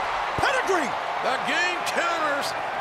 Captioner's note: crowd cheering